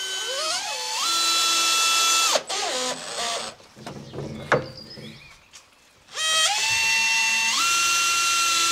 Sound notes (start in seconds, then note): 0.3 Hell whirring; 3.6 birds chirping